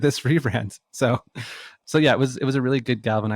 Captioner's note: laughs